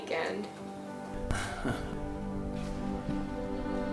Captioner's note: laughs